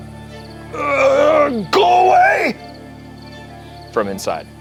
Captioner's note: groans